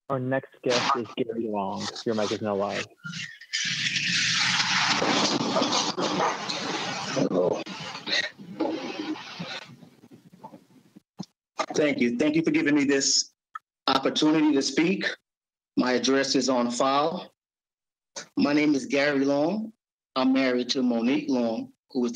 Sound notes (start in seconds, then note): 4.3 microphone shuffling